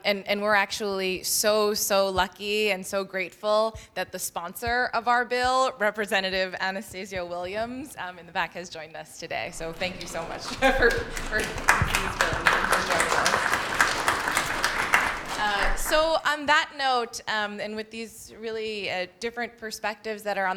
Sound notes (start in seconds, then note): 12.0 applause